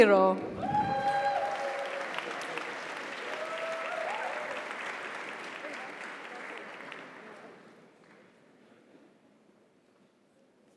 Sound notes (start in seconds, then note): 0.6 audience cheers; 0.6 audience applauds